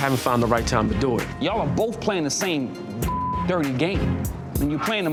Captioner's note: beep